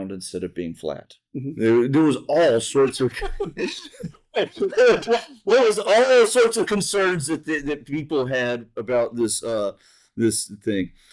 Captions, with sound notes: instead of being flat. There was all sorts of... [laughter] Well, there was all sorts of concerns that people had about this thing.